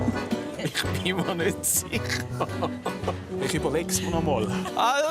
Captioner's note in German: Lachend